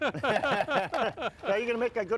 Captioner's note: laughter